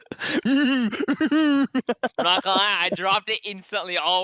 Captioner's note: laughs